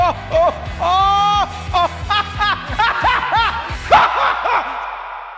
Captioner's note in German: lacht wahnsinnig